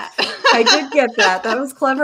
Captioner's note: chuckle